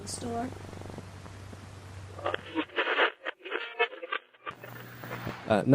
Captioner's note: static